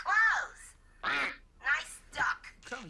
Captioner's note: quack